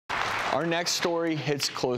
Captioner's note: audience clapping